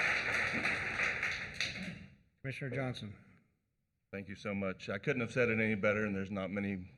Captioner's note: applause